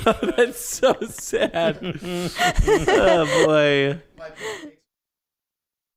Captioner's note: laughter